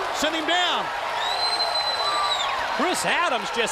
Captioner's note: crowd cheering